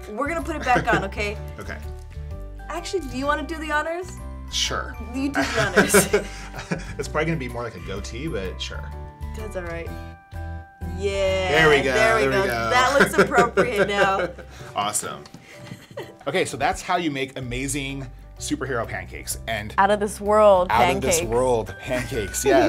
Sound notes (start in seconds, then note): 5.4 chuckling